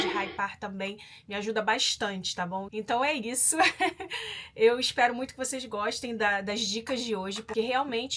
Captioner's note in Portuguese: risadas